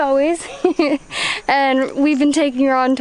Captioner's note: laughs